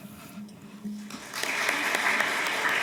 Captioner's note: applause